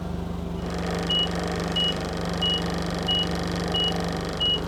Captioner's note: beeping